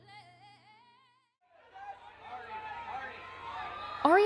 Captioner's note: crowd shouting